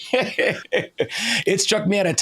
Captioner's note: laughing